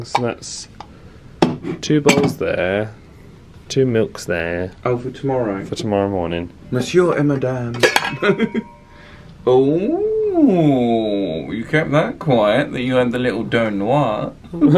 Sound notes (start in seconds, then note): 7.7 cloche clangs